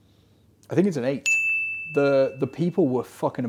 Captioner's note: bell dinging